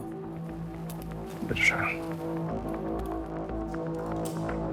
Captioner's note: speaks German